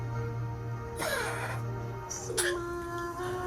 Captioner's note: Norman coughs